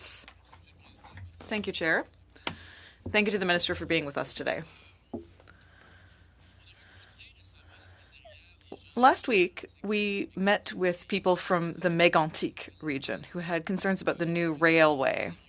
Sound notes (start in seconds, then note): 1.9 speaking French